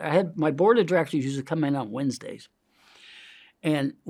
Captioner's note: inhales